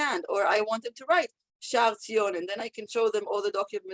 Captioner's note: Hebrew